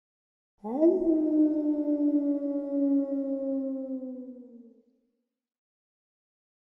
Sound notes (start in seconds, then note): 0.6 wolf howling